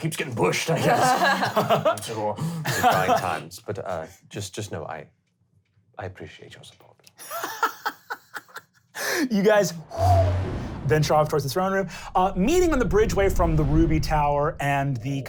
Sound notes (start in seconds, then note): 7.2 laughing; 11.8 exhaling